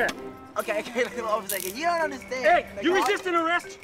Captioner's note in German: lacht